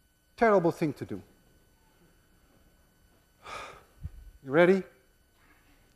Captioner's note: sighs